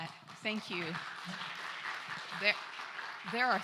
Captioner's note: applause